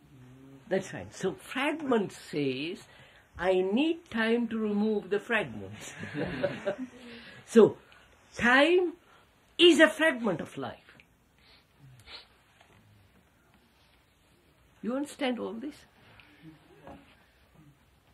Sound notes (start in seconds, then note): 5.8 laughter